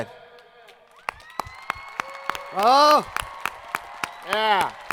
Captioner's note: students cheering